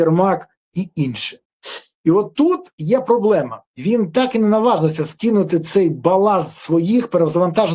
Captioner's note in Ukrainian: сопіння